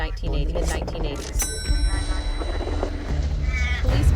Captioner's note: bell dings